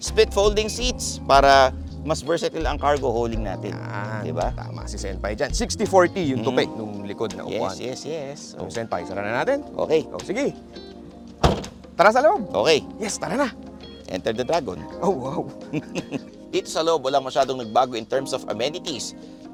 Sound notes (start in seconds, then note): 11.4 door thuds; 15.5 chuckles